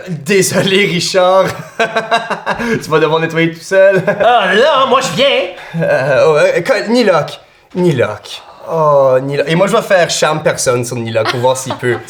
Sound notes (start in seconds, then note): 1.4 he laughs